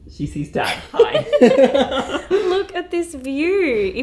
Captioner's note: both laughing